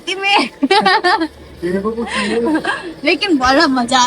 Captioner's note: laugs